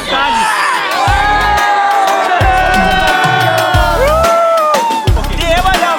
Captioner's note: cheering